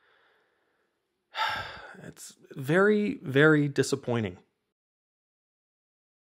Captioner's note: exasperated sigh